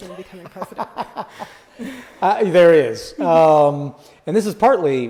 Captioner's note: laughs